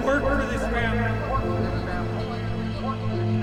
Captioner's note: echoes